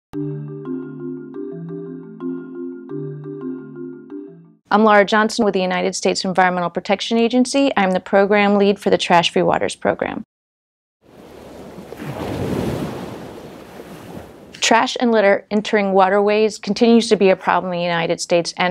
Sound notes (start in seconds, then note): 0.1 xylophone music; 11.1 crashing wave